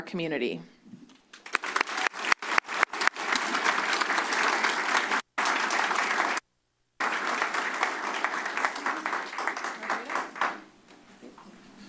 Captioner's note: applause